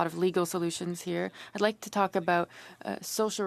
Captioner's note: speaking French